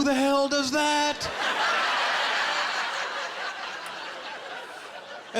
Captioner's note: laughter